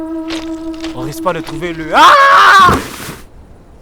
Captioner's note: thud